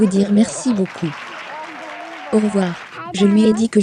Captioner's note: audience applauding